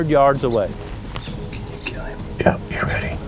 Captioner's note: whispering